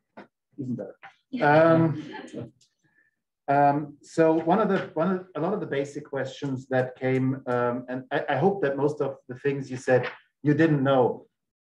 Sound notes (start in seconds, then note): 1.4 group members laughing